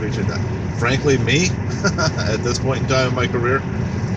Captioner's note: laughs